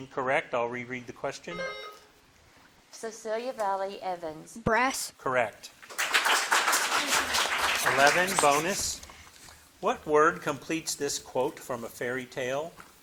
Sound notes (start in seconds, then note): 1.6 bell dinging; 5.8 audience clapping